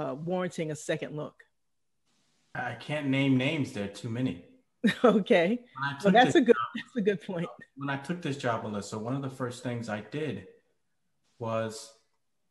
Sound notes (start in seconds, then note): 5.9 laugh